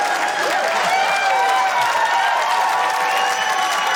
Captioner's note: cheering